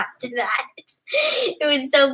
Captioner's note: laugh